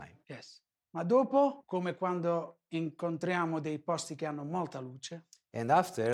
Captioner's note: speaking foreign language